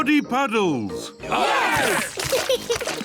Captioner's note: cheering; laughs